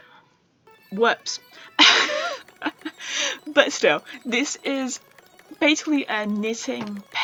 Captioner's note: laughs